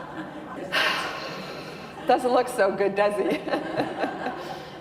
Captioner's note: laughter; sigh